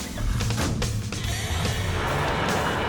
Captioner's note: vehicle door slams; engine revs